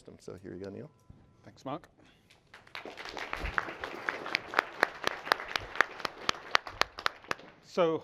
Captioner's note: applause